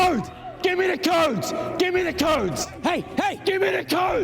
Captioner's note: shouting